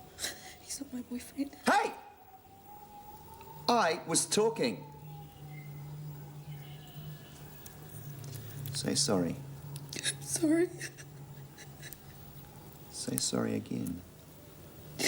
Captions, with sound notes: - He's not my boyfriend. - Hey! I was talking. Say sorry. - I'm sorry. (whimpering) - Say worry again.